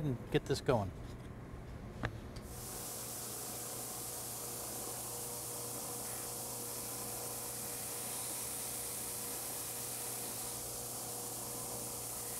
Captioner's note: sanding